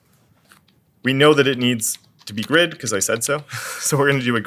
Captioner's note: laugh